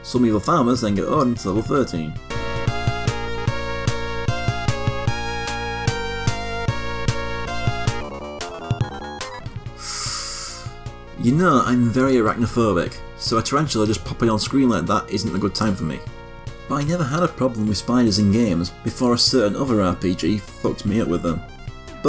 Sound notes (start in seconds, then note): 3.5 sucks in air through teeth